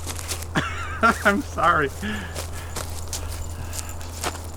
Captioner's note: chuckling